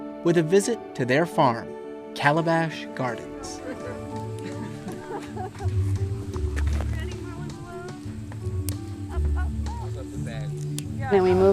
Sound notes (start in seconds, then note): 3.4 people laughing; 3.9 bright music